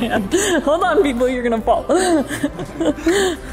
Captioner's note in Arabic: كلاهما يضحك